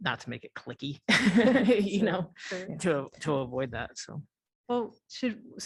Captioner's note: laughter